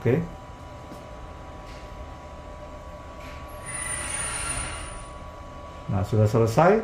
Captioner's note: printer machine noise